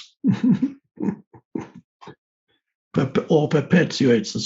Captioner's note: chuckles